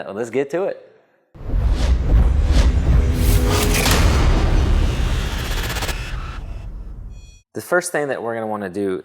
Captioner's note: sound effect